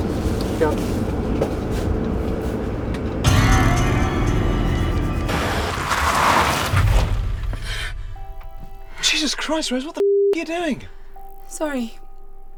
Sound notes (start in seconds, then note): 3.2 ominous music; 7.9 gasping